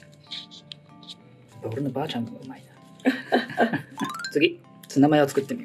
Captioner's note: laughs